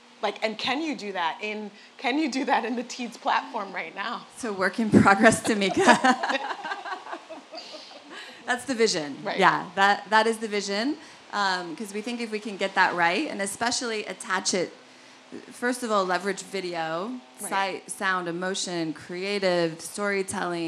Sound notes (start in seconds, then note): 5.0 laugh